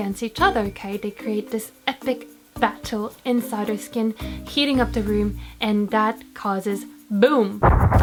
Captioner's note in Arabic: انفجار